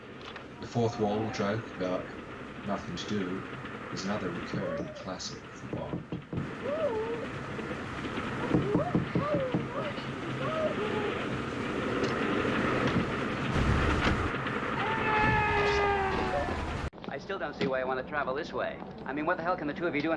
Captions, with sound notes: The fourth wall joke about nothing to do is another recurring classic for Bond. [Muffled shouting from woman, banging noises] [Train noise] [Click] Aah! I still don't see why you want to travel this way; I mean what the hell can the two of you